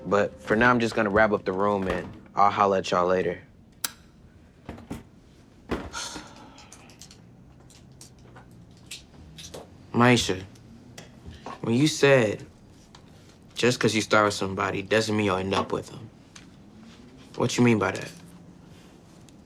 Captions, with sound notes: but for now, I'm just gonna wrap up the room and I'll holler at y'all later. (chair taps) (Papa sighs) (objects clicking and tapping) Maisha, when you said, just 'cause you start with somebody doesn't mean you'll end up with them, what you mean by that?